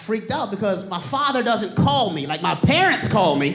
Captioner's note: audience laughing